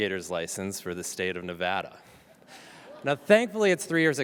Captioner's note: audience chuckles